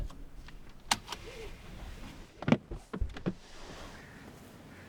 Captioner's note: seatbelt clicks; crows cawing